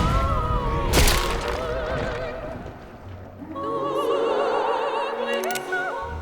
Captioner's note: gunshot; wet squelch; gun clicks